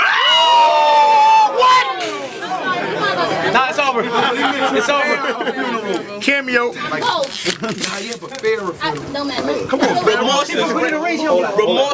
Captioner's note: crowd Reaction